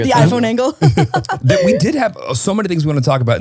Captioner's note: laughs